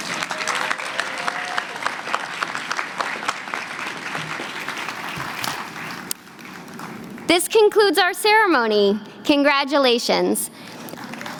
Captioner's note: applause